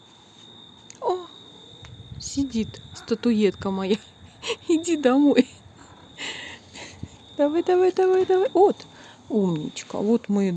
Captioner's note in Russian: смех